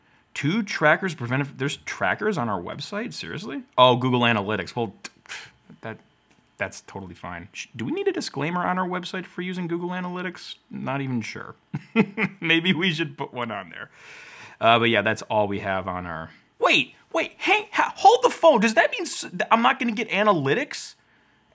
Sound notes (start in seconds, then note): 11.7 laughs